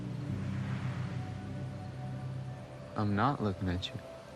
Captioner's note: waves splashing